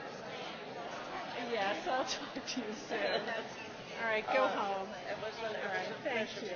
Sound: laughs

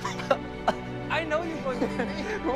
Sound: laughs

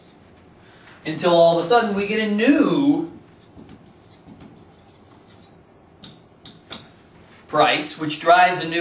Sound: pause

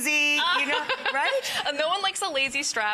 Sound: laughs

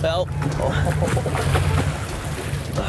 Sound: laughs

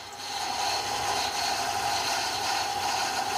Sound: loud grinding noise

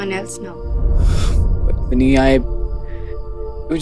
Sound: sighs

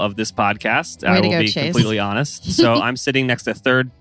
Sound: laughs

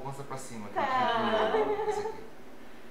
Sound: laughter

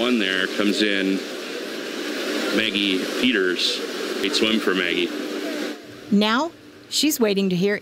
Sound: nat sound of intro at heat

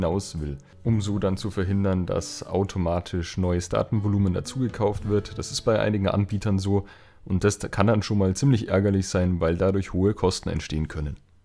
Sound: German

